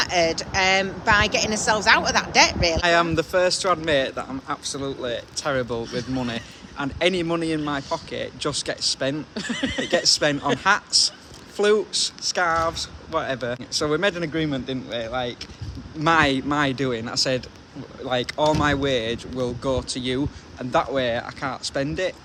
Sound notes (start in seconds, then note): 13.3 laughing